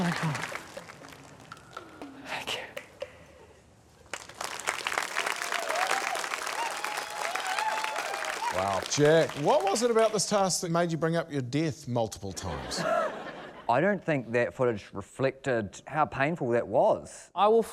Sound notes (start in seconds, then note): 4.1 cheering, applause; 12.4 laughter